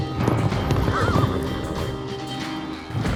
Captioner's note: horse neighs